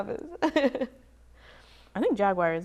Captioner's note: laughs